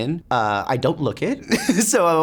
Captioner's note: laughs